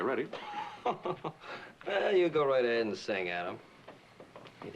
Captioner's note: mocking laugh